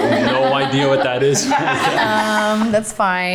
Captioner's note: everyone laughing